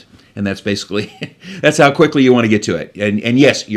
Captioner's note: laughs